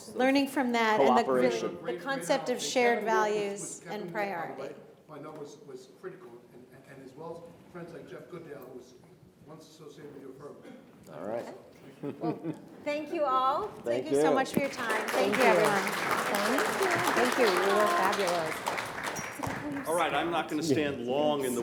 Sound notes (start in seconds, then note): 11.8 chuckles; 14.3 audience applauds